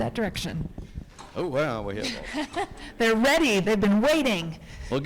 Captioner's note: laughs